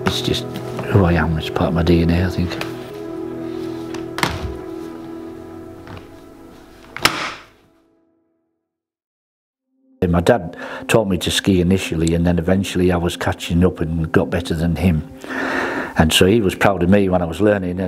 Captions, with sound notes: It's just who I am, it's part of my DNA, I think. (equipment clacking) My dad taught me to ski initially and then eventually I was catching up and got better than him. And so he was proud of me when I was learning